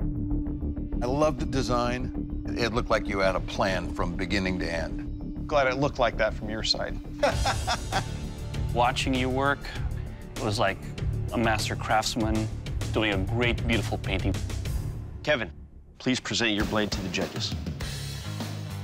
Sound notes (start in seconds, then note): 7.2 laughs